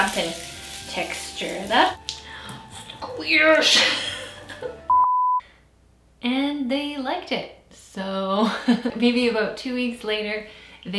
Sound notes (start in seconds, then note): 4.9 beep